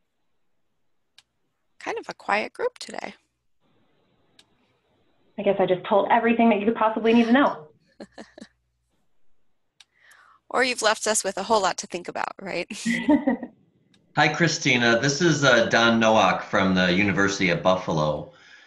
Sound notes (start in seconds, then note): 8.0 laughs; 12.6 laughs